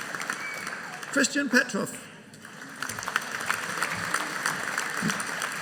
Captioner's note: audience applauding